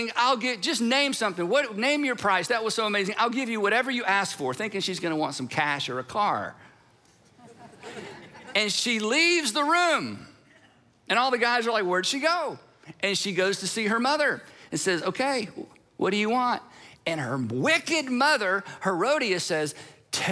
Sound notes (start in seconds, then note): 7.4 audience laughs